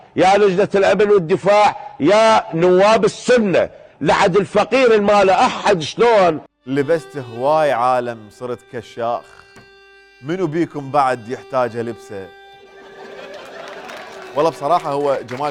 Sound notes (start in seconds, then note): 6.7 poetically